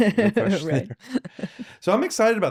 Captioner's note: laughing